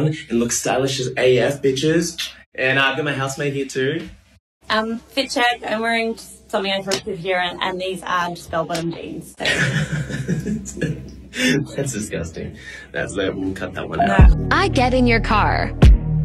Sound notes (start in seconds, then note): 9.5 laughing mockingly